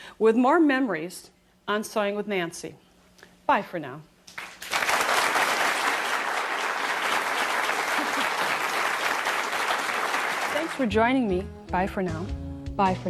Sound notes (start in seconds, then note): 4.3 applause